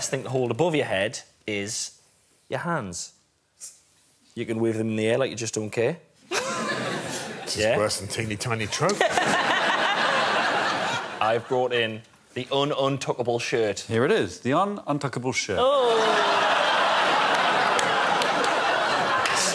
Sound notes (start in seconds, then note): 8.8 laughter; 17.4 audience laughing